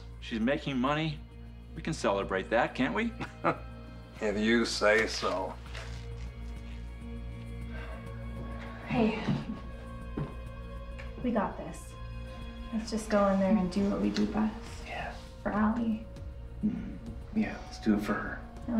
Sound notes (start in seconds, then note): 3.2 laughs; 7.6 sighs